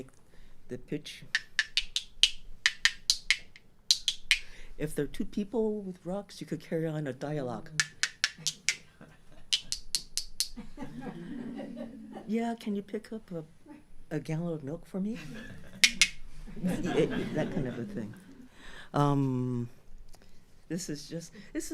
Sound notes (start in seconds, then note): 0.0 tapping sound with changing pitch; 7.7 tapping sound continues; 15.8 tap-tap